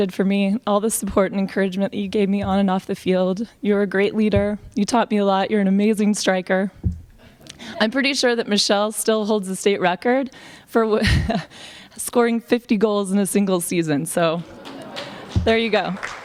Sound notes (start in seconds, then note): 10.9 laughs; 15.6 applause